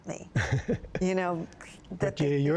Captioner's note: laughter